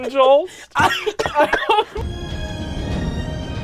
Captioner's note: laughing; orchestral music